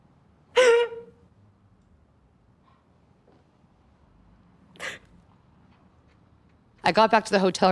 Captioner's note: Kate cries